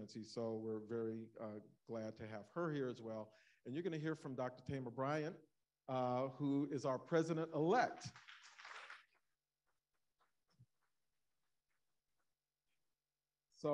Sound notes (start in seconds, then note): 8.0 audience applauding